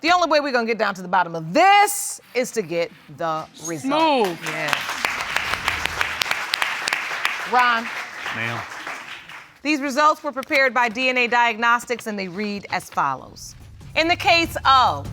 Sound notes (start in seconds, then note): 5.7 applause